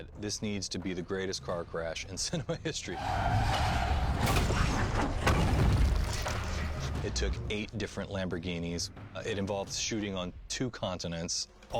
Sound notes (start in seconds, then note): 2.6 chuckles; 2.9 tires screeching